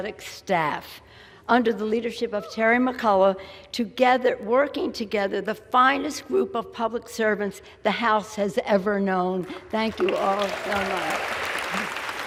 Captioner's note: applause